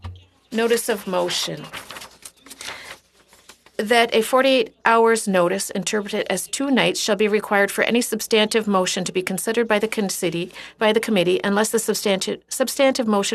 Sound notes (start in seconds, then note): 2.9 speaking French